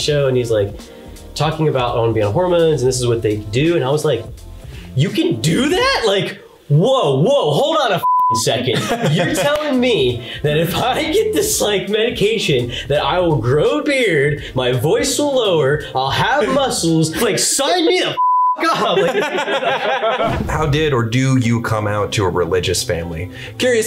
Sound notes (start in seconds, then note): 8.0 beeps; 18.2 beeps; 18.6 all laughing loudly